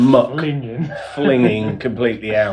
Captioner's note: laughs